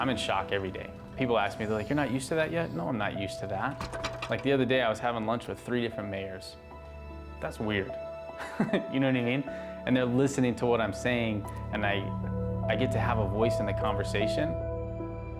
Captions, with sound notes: - I'm in shock every day. People ask me. They're like you're not used to that yet? No, I'm not used to that. Like the other day, I was having lunch with three different mayors. That's weird. (laughs) You know what I mean? And they're listening to what I'm saying and I get to have a voice in the conversation.